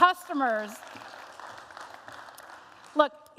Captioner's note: applause